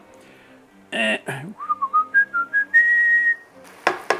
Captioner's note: whistlin